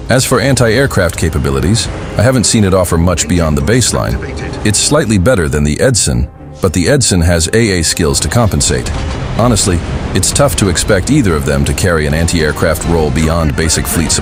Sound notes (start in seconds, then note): 8.4 anti aircraft